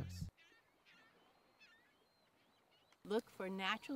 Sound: gulls squawk

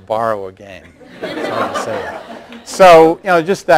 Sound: laughter

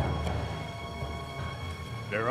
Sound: somber orchestral music; lightly chortles

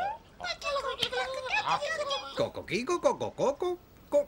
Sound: mumbling happily

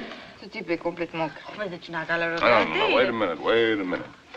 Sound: French

